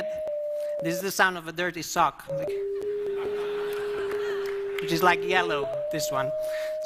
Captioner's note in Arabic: الجمهور يضحك